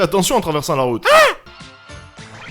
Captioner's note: shoutings